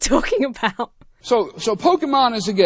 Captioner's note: laughs